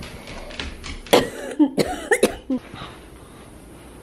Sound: coughing

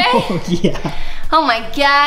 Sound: laughing

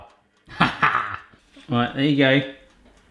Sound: laughing

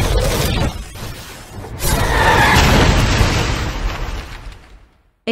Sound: explosions

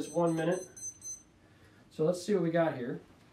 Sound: timer beeping

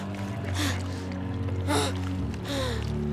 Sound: grunting

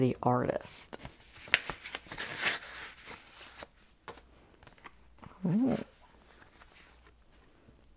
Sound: paper crinkling and tearing

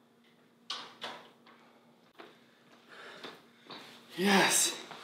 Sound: door handle clicks

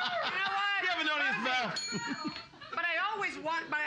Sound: loudly laughing; bell softly chimes

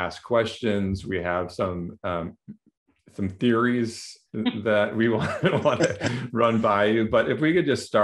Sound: laughter

